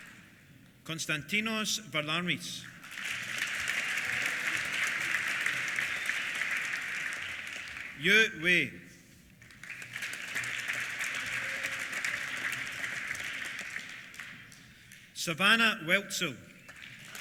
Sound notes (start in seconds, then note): 2.6 applause; 2.9 cheers; 9.4 applause